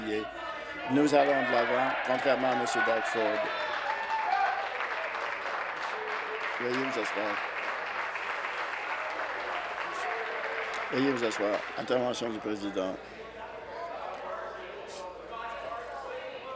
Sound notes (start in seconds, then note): 7.1 applause